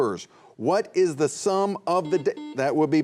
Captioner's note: buzzer buzzing